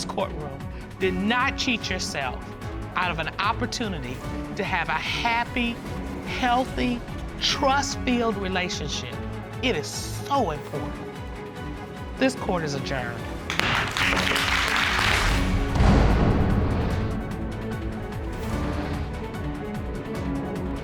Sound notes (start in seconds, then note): 13.5 gavel bangs; 15.4 audience clapping